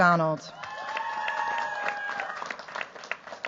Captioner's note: cheers, applause